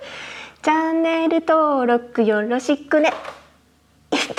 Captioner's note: laughs